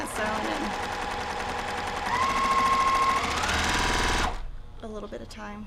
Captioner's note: sewing machine roaring